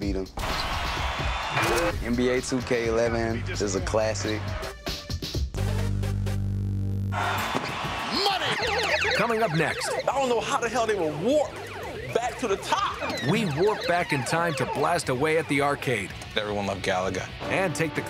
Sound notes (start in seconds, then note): 1.7 cheering